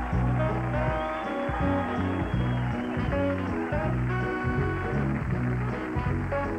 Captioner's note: applause